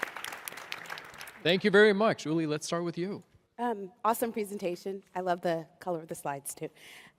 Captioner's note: applause